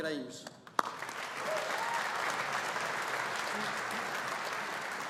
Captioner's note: audience applauding